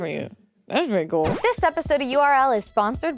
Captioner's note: star whooshing